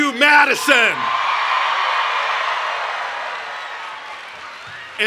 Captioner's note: cheering and Applause